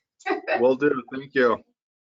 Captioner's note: laughs